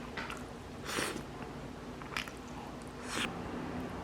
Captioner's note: slurps